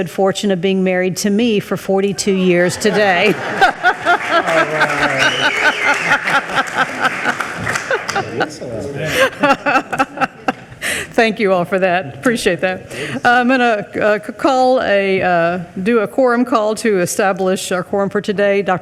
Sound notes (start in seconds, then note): 2.4 laughing; 2.8 attendees clapping